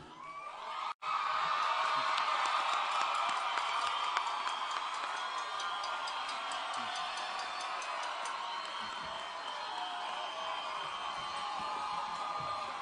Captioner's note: applause and Cheering